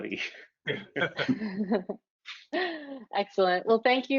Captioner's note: laughs